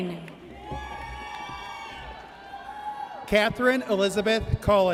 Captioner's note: audience cheers